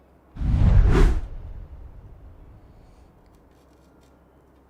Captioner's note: text swooshes